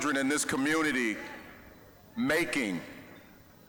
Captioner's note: none